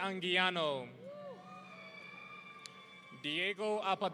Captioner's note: audience cheering